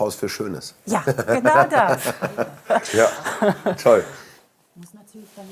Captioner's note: laughs